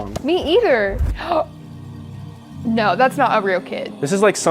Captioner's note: gasps